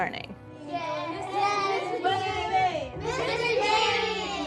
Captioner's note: children chattering